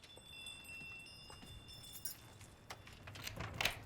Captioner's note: bells tolling